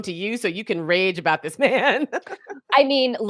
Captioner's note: chuckles